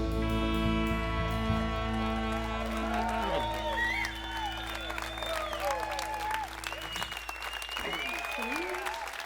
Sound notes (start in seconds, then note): 1.5 crowd applause